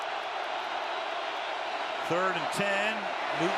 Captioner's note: cheering